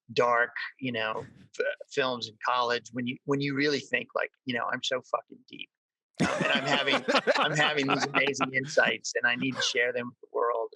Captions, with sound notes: dark, you know, films in college. When you really think like, you know, I'm so fuckin' deep. (all laugh) I'm having these amazing insights and I need to share them with the world.